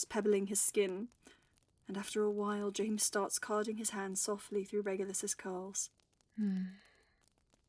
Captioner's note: Regulus hums